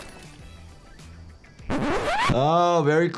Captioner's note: animals calling; upbeat music; record scratching